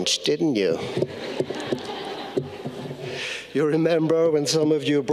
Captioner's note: audience laughing